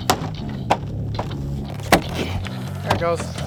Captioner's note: pickets popping